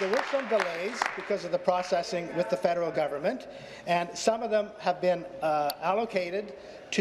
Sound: applause

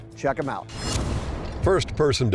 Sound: dramatic transition noises

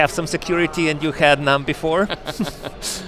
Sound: both laugh

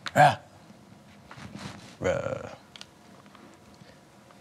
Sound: grunting

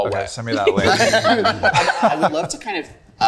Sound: group laughing

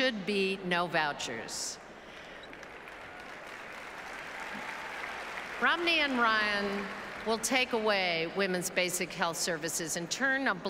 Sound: applauses

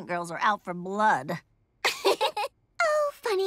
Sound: laughing

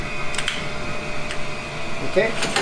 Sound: lighter clicks

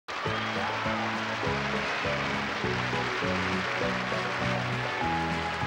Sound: audience cheering; cheerful music

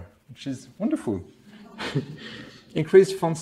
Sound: laughs

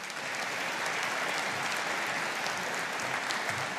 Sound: audience applauding

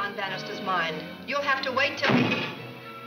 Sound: door opens

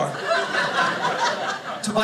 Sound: audience laughing

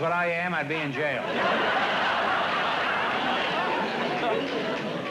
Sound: laughter

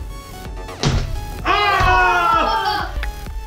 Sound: heavy thud

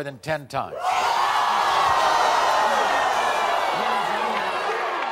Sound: audience yells

